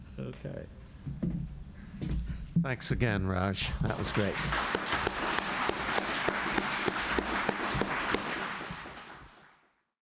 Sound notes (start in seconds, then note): 3.8 applause